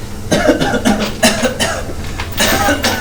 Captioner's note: coughing